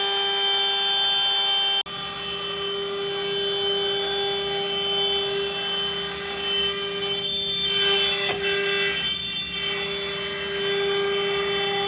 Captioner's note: saw cutting